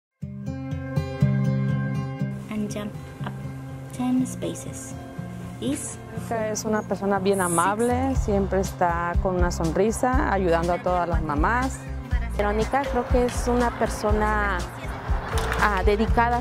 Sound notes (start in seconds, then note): 0.2 upbeat music; 6.3 speaking in foreign language